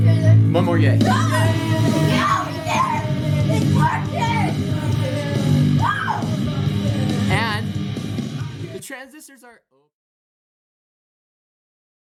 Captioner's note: cheers of excitement